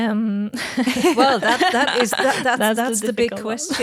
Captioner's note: group laughing